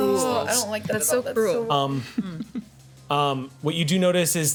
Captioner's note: overlapping chatter